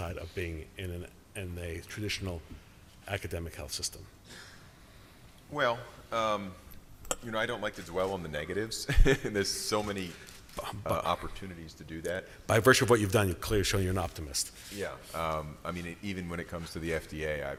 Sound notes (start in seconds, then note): 8.8 chuckles